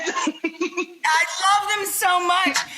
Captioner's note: laughs